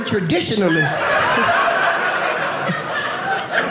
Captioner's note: audience laughing